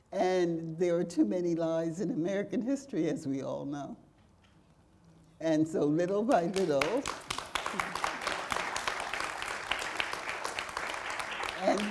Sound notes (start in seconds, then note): 6.5 audience applauding